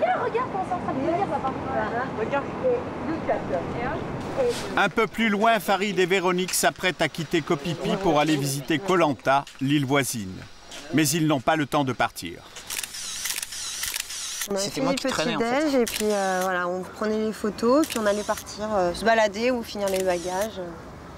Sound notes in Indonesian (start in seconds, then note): 12.5 efek suara memotret